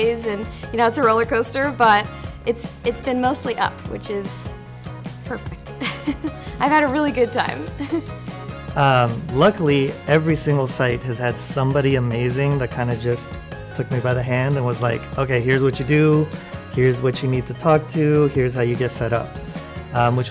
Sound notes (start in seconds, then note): 5.7 giggles; 8.7 chuckles